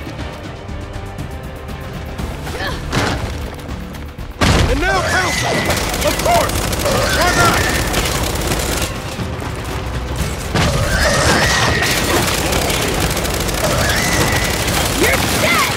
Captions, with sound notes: - And now help! - Of course! - Come on! (gun fires) - You're dead!